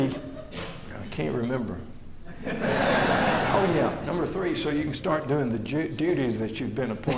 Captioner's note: laughter